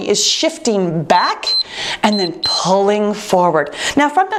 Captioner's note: timer beeps